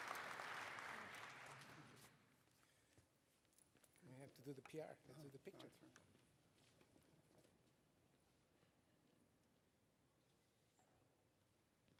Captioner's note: applause